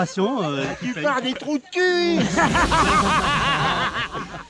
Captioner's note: haha